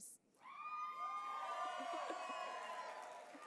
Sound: applause

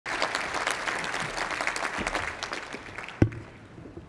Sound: applause

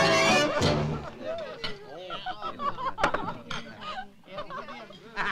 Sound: guests laugh

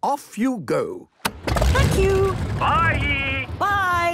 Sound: engine starting

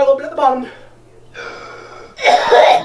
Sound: inhales

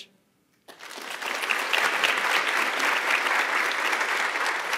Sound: audience applauding

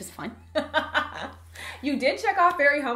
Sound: laughs

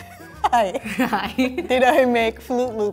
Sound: both laughing

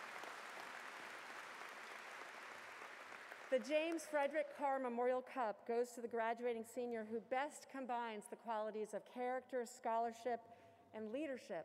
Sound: applause

